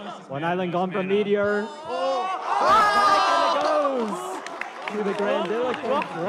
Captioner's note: people exclaiming